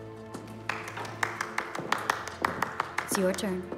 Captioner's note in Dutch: mensen klappen